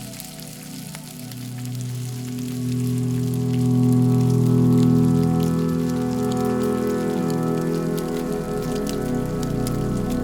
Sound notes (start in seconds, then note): 2.6 light dramatic music; 4.0 food sizzling